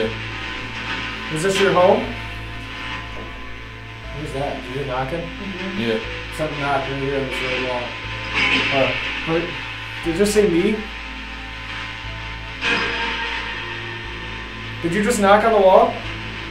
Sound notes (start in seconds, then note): 8.7 radio noise hissing continues; 13.0 radio noise reverberating